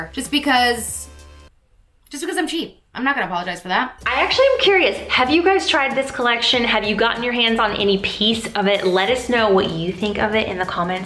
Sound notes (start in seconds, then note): 3.9 logo whooshes; 4.0 upbeat music